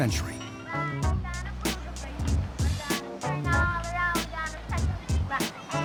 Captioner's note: kids chanting